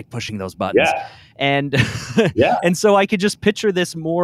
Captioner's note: laughs